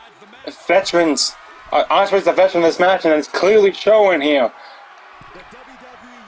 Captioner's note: applause